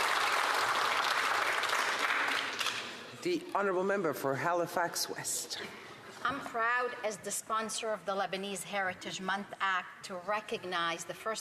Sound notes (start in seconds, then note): 3.5 applause